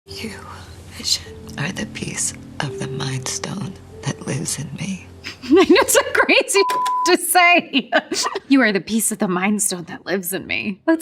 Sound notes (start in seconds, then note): 7.8 laughs